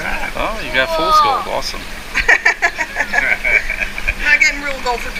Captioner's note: laughter